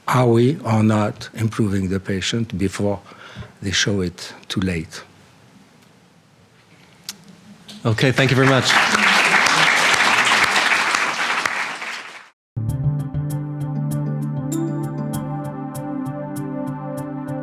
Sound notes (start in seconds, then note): 7.9 applause; 12.6 tranquil electronic music